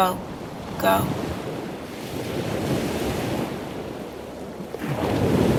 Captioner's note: ocean waves